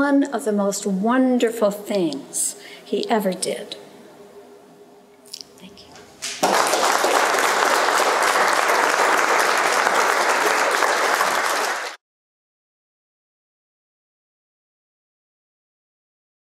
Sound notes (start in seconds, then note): 6.3 audience applauding